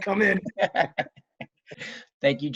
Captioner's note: laughs